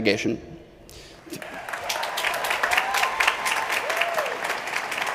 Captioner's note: crowd cheering